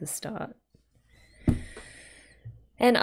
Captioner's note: breathes